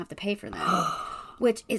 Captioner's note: gasps